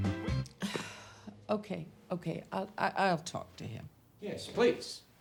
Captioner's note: sighs